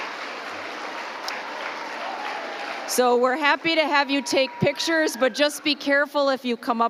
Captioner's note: applause